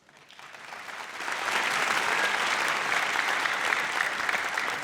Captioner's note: audience applauds